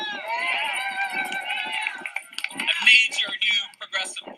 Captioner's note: CHEERS/applause